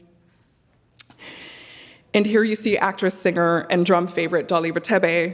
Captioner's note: none